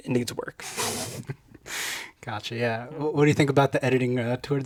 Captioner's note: chuckles